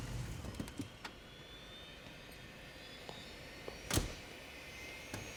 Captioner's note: jet engine whirring; door shuts